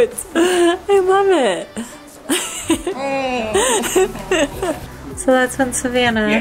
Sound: laughs

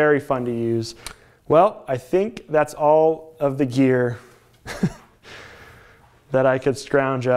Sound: chuckles

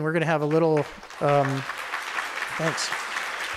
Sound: audience applauding

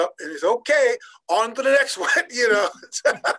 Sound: laughing

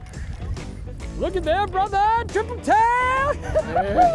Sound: cheers

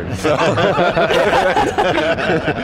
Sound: all laughs

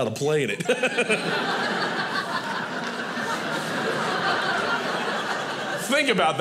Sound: audience laughing

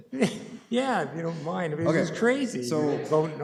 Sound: laughing

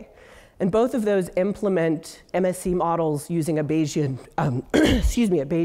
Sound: cough

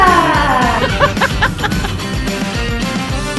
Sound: laughing

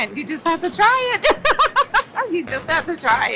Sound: laughs

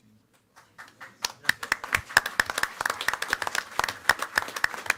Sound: applause

